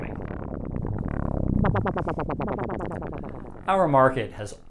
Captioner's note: soft whirring